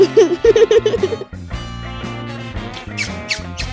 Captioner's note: giggling